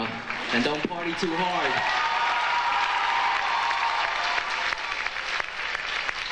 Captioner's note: audience applauds and cheers